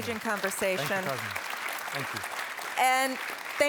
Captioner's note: applause